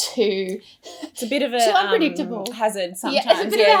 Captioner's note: laughs